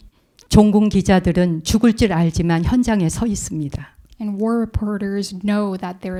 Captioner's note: speaking in Korean